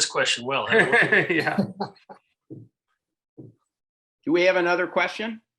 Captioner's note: laughs